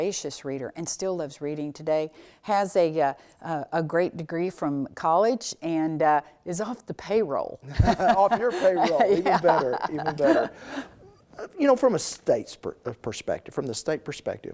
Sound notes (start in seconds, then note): 7.7 laughing; 7.7 laughs